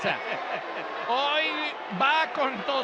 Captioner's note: laugh